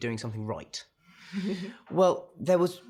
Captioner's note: chuckles